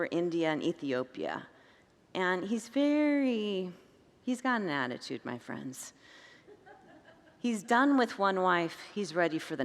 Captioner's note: congregants laugh